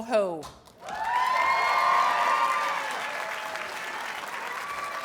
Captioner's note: audience cheers and applauds